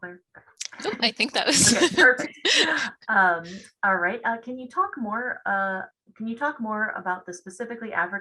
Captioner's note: laughs